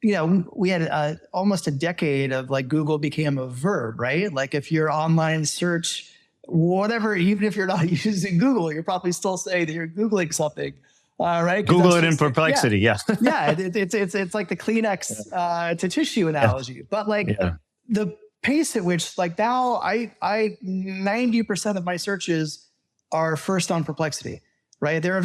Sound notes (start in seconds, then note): 11.6 laughs